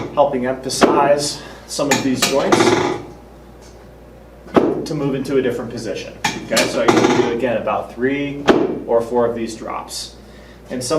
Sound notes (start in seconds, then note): 1.9 drop table clunks